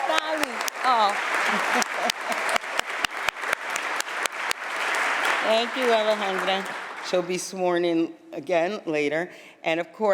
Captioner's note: applause